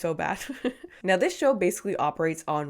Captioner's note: laughing